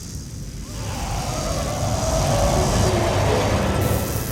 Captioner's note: Salazar screaming